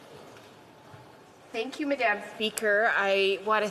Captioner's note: speaking French